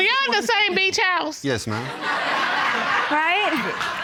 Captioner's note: laughter